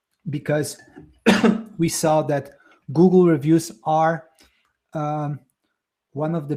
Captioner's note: coughs